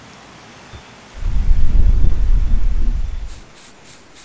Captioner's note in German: Regen hört auf